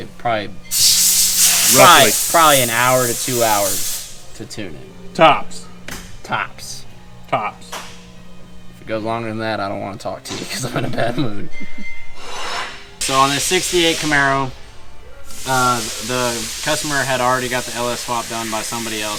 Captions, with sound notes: Probably an hour to two hours to tune in tops! Tops! Tops! If it goes longer than that I don't want to talk to you because I’m in a bad mood. (Laughing) So on this ’68 Camaro the customer had already gotten the LS swap done by somebody else.